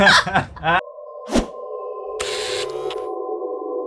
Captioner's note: all laughing; logo whoosh